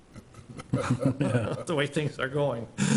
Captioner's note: laughing